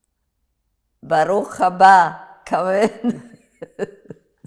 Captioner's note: hebrew; laughing